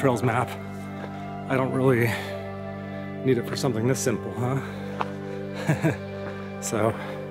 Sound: laugh

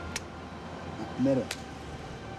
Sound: speaking Maori

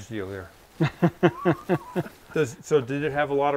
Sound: laughs

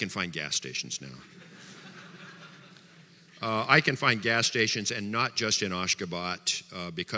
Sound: audience laughter

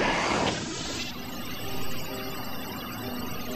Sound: electric whir

